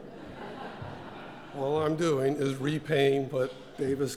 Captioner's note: laugh